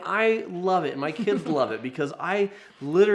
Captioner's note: chuckles